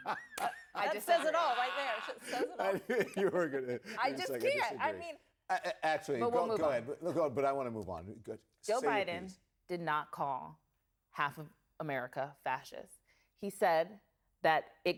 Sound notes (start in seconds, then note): 5.4 laughs